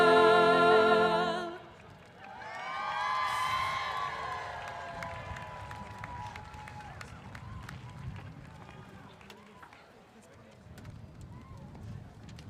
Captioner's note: applause